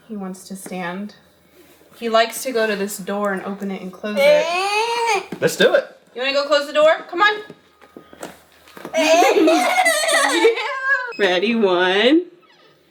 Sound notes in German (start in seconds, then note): 9.0 lacht